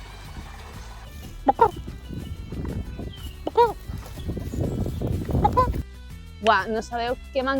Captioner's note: expert bagawking